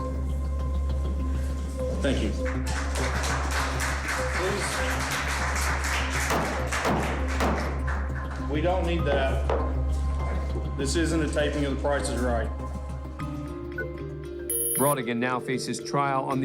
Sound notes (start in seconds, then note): 2.0 applause; 6.1 gavel pounding